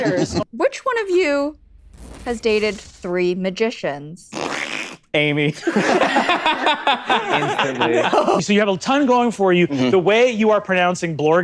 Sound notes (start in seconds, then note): 0.0 laughs; 5.6 everybody breaks into laughter; 7.6 through giggles